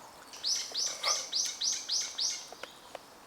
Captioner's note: bird chirping